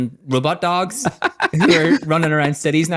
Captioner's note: laughs